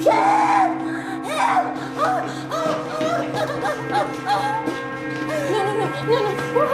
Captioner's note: breathing heavily and sobbing